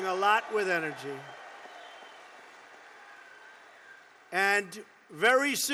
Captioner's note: applause